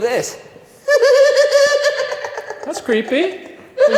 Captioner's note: silly laugh